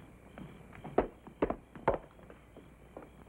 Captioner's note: footsteps up steps